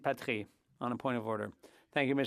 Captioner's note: speaking French